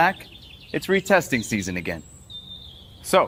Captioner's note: birds chirp